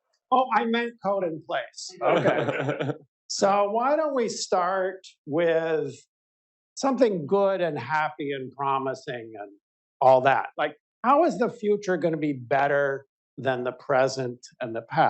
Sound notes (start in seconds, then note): 2.0 laughter